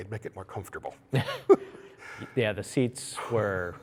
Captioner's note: laughs